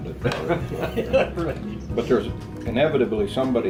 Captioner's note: laughs